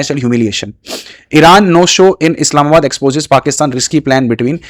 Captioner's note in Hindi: नाक से की जाने वाली आवाज़